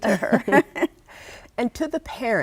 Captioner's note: laughs